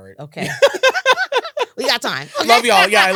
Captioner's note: laughter